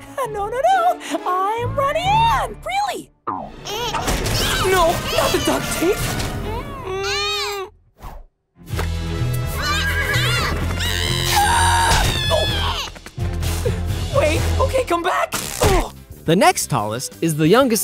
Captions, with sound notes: No, no, no, I'm Ronnie Anne. Really. No, not the duct tape. [groaning, babbling] [babbling] [screaming] Wait. Okay, come. [groaning] The next tallest is the youngest Loud